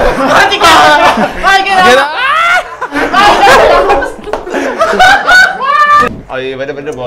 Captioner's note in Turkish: bağrışma, gülüşme